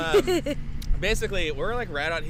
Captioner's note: chuckles